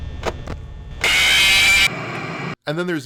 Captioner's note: game sounds; static; game character screaming